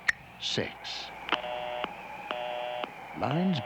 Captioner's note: busy tone over phone